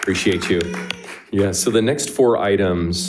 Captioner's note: crowd applauding